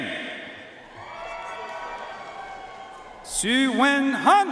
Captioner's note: audience cheering and applauding